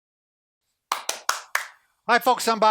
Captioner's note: clapping